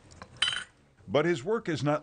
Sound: object clinking

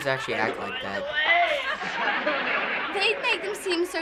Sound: canned laughter

